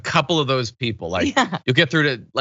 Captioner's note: laugh